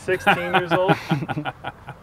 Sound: laughter

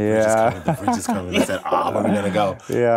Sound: laughs

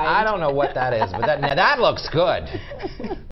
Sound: laughter

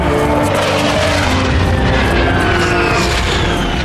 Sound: sad, music; rocket blast

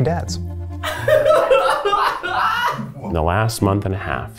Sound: laughing in the background

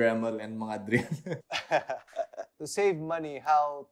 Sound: chuckles

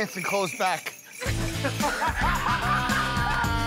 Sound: laughter

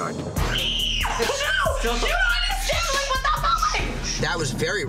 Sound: screaming

